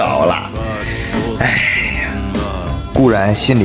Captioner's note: sigh